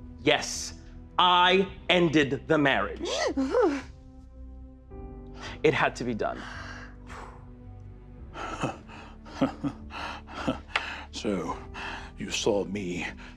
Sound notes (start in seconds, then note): 3.1 gasps, oohs; 6.3 exhales; 9.2 Hob laughs quietly and bitterly